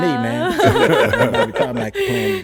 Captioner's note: laughs